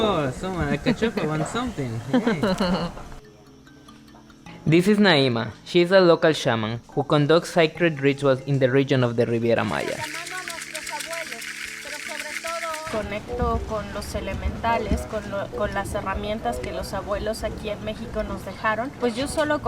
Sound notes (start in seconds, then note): 11.0 speaking in Spanish; 15.5 speaking in Spanish